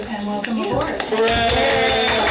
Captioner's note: clapping